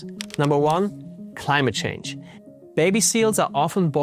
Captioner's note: text clacking